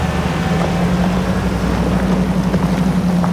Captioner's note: engine rumbling